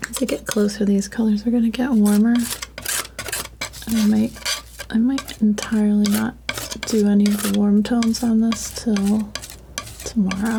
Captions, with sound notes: To get closer, these colors are gonna get warmer. (scratching) I might entirely not do any of the warm tones on this till tomorrow.